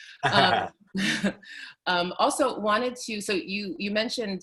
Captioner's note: both chuckle